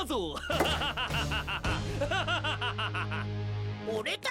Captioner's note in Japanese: 笑い声